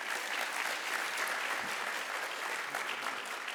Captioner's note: applause